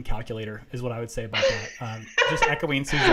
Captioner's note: laughs